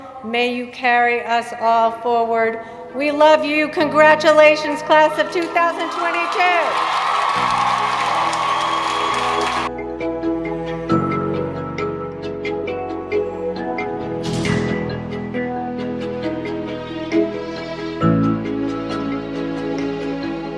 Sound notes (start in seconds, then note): 5.4 cheering; 8.8 hopeful music